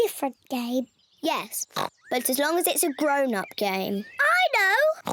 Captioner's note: oinks; oinks